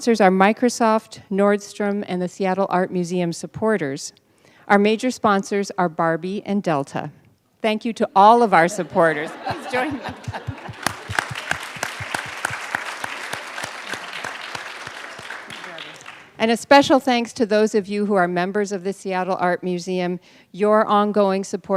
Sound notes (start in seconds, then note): 8.5 laughter; 13.0 applause